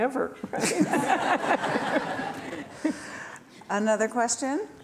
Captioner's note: laughing